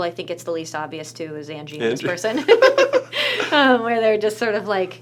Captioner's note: laughs